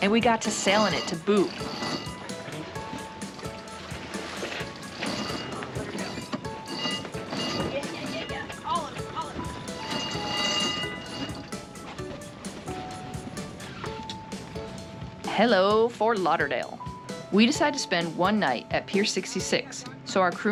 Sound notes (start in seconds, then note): 4.5 wench cranking